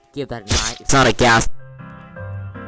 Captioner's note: earrape